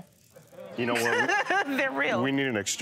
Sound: laughs

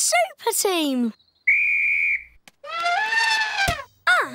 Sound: blows whistle; trumpets

